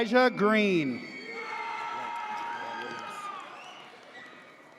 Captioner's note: audience cheers